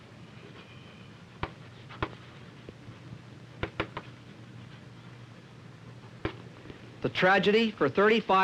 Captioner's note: chalk tapping